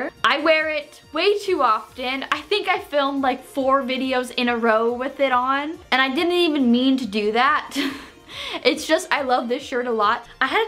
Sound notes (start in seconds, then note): 8.1 laughs